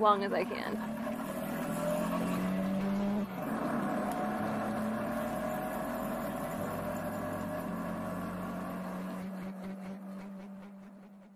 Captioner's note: engine accelerating